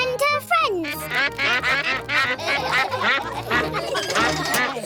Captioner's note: quacks; all quack; laughter